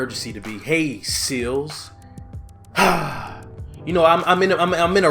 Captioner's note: grunts